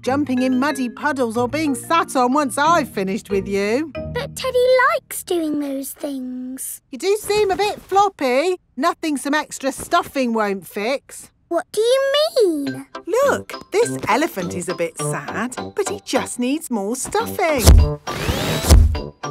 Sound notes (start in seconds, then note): none